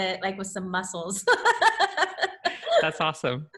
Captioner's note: laughs loudly